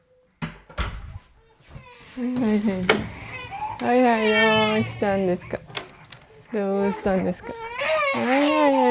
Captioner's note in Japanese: 赤ちゃんの泣き声